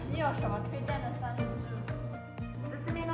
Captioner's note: non-english